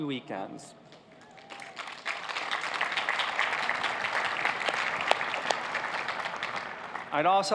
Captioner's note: cheers and applause